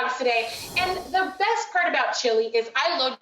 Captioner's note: whooshing